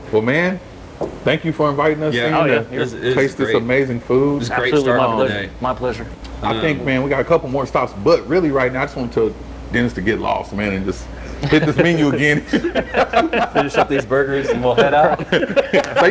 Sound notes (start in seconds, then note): 12.8 all laughing